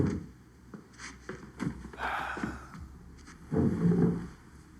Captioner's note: sighs